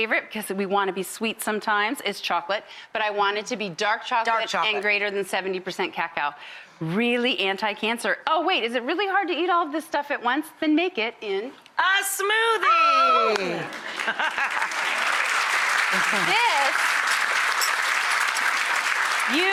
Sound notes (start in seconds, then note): 13.6 audience applauds